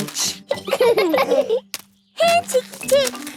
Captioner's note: laughing